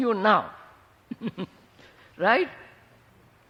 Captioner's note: laughs